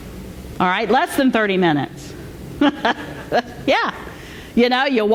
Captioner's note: laughter